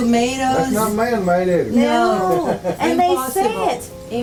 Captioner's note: chuckles